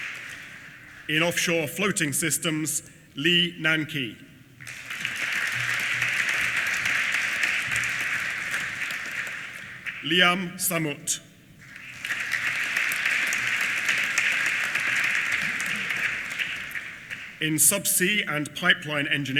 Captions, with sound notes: In Offshore Floating Systems, Li Nanqi. (APPLAUSE) Liam Sammut. (APPLAUSE) In Subsea and Pipeline Engineering,